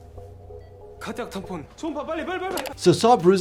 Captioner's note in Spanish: hablando idioma extranjero